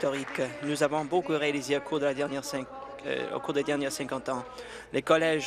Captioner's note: applause